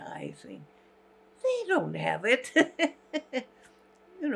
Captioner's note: laughing